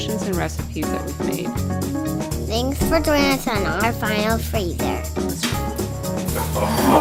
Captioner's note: child's voice